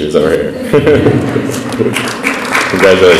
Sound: laughs

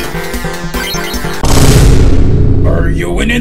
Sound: BOOM x3

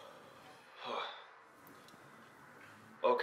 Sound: Dr. Wu sighs

